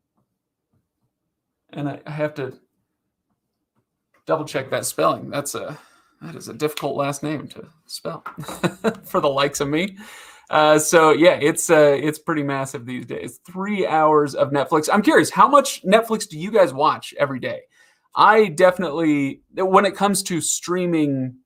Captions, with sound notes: And I have to double check that spelling. That's that is a difficult last name to spell (laughs) for the likes of me. So yeah, it's it's pretty massive these days, three hours of Netflix. I'm curious, how much Netflix do you guys watch every day? I definitely, when it comes to streaming,